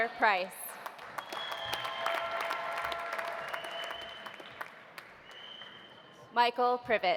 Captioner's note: audience applauding; audience cheering